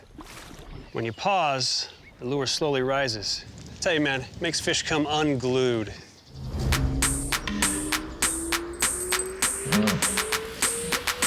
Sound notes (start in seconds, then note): 7.5 slowly rising whistle; 8.4 hiphop music